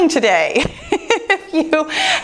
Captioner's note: laughs